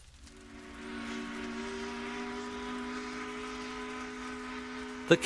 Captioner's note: ship's horn